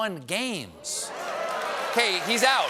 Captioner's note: applause